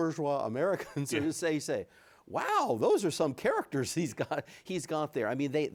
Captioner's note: chuckles; chuckles